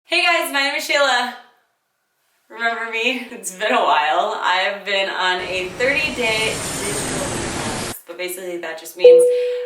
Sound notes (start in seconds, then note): 5.4 airplane overhead